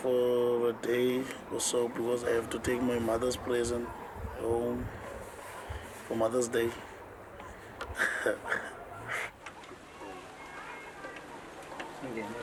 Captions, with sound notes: just for a day or so, because I have to take a present home to my mother for Mother's Day. [LAUGHS]